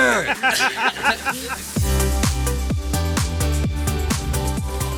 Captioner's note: laughter